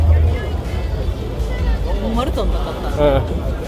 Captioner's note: laughs